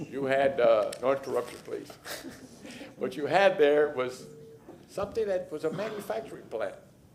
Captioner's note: laughter